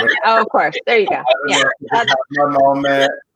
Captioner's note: laughs